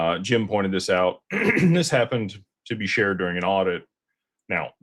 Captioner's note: clears throat